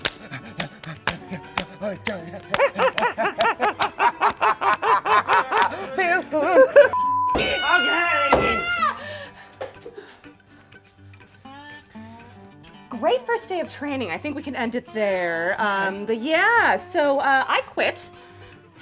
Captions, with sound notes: (hands clapping) - Feel good. (graphic beeping) (waitress screaming) (bat knocking) (country music) - Great first day of training. I think we can end it there. Um, but yeah, so I quit.